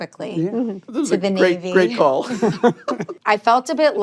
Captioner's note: laughter